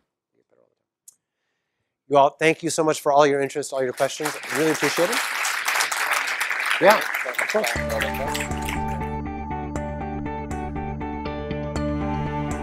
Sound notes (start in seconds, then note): 3.7 applause